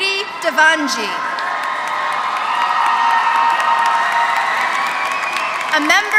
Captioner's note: applause